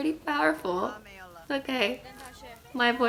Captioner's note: voice cracks